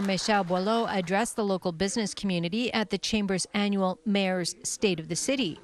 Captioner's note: applause